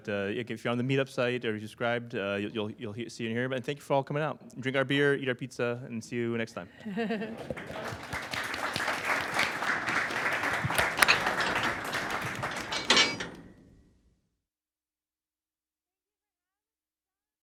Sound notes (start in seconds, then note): 7.1 applause